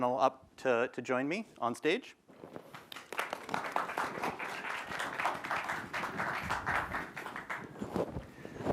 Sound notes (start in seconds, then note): 2.7 applause